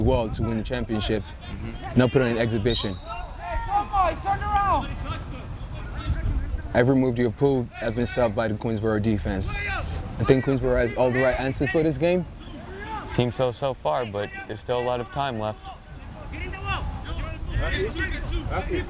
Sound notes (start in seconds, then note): 2.6 whistle tweeting; 5.6 players shouting; 15.7 players shouting